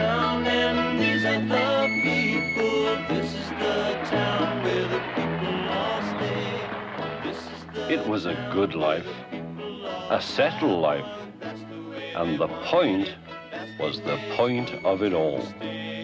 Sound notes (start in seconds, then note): 4.7 audience applauding